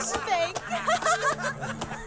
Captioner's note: all laugh